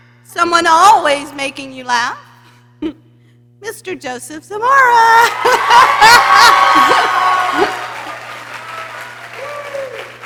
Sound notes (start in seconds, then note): 5.2 laughs; 5.2 people cheering